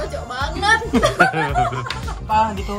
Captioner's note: laughing